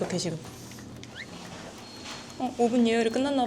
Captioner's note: the sound of an oven's alarm!